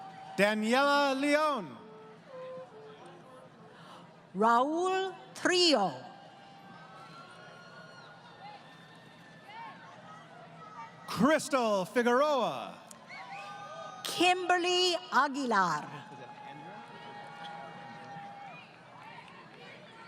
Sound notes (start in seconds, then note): 6.9 crowd Cheering; 16.9 crowd Cheering